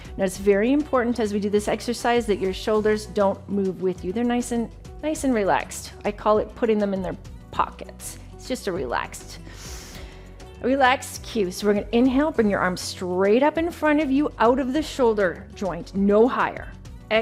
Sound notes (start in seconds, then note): 9.4 inhales